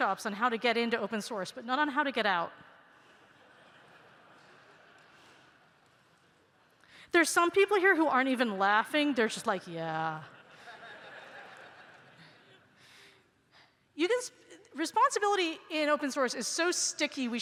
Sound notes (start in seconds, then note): 3.1 laughter